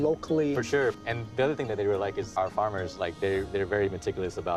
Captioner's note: none